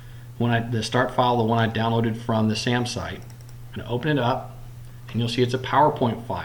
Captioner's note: clicking